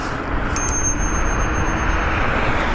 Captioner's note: bell ringing